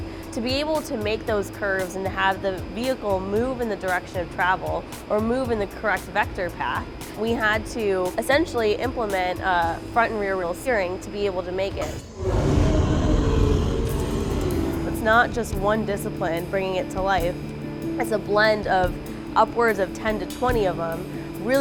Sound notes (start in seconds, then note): 11.9 roaring